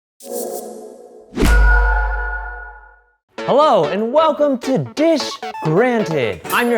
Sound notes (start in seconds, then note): 1.0 bell dinging; 1.4 air whooshing